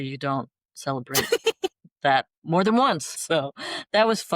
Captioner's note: laughter